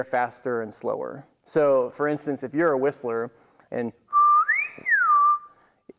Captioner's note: whistles